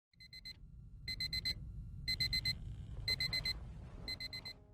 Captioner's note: alarm beeping